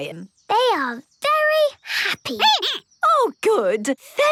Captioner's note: squeaking